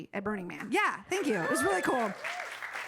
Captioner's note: audience cheering